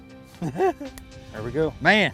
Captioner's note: laughing